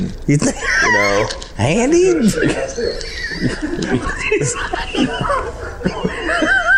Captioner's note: laughing